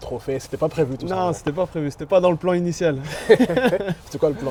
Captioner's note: laughs